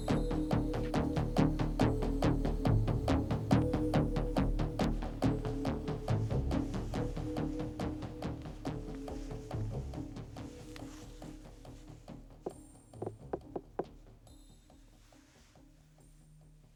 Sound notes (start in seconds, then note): 13.0 knocking